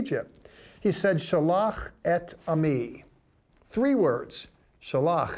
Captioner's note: speaking in Hebrew